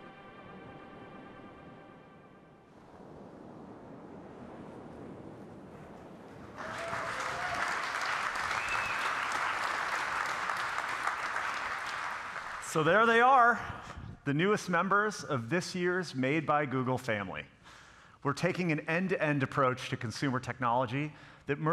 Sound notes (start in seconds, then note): 0.7 distant train rumbling; 6.4 audience cheering and applauding